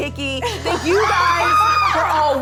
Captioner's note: laughing